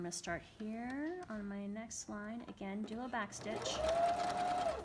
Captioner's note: sewing machine hums